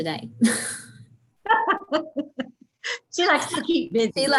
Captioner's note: laughing